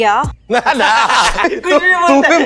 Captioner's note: Both laugh